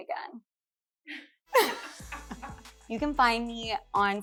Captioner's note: laughs